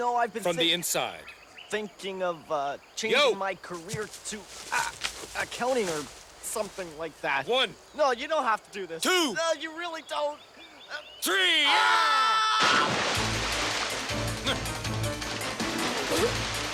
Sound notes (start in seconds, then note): 11.2 Roger yells; 15.9 laughs